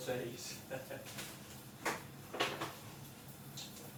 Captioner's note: chuckling